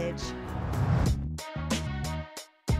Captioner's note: whoosh